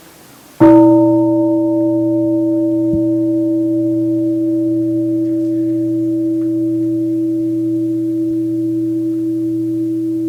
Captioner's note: gong